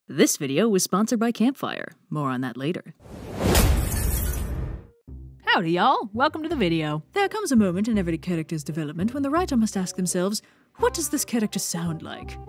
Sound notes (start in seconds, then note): 3.3 impact followed by shattered glass